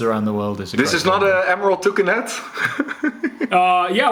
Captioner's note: chuckles